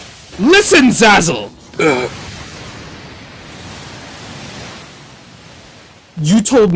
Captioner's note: Zazelmare whines